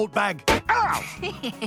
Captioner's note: smack; Fry snickers